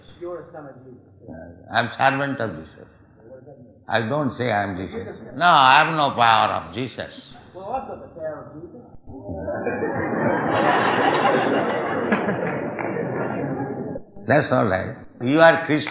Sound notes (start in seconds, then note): 9.2 audience laughs